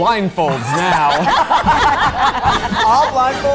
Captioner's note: everyone laughs